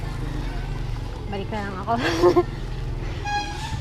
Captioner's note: laughs